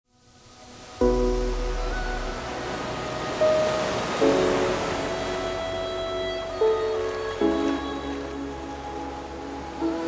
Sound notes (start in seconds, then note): 0.9 ocean waves crashing; 5.3 peaceful music